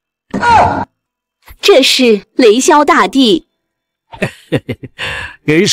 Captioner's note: chuckles